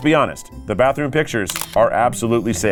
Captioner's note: graphics clicking